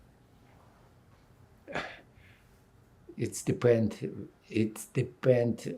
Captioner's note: sighing